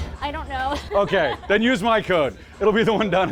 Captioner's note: laughs